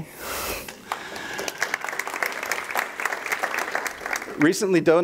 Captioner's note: audience applause